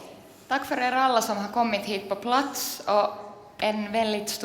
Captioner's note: speaks Swedish